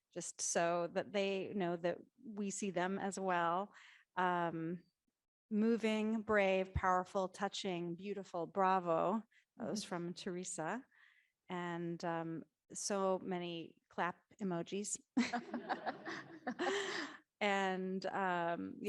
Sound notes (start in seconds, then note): 15.3 audience laughing